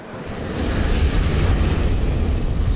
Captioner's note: volcano expelling fumes